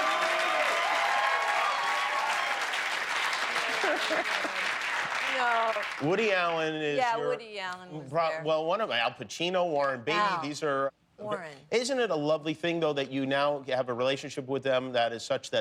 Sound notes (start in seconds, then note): 0.0 cheers and applause; 6.5 cheers and applause